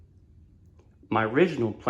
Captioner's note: none